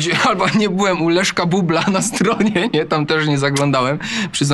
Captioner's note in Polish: śmiech